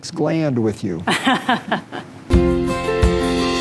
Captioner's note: laughing